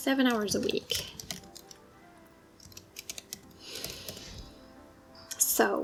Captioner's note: typing